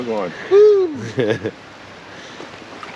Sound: chuckling

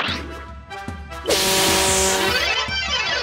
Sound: blow honk

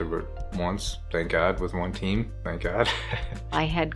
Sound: laughing

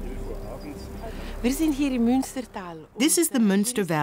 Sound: speaking in foreign language

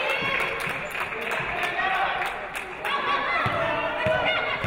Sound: audience applauding

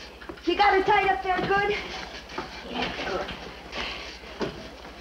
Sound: bed rattles

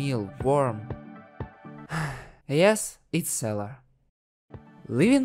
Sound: gasp

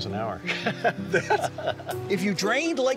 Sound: laughing

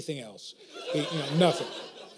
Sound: laughter

